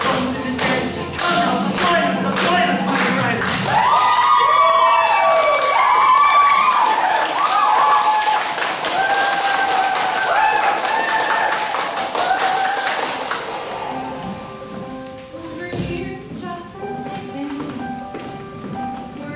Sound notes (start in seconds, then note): 3.6 "Voodoopunks" cheering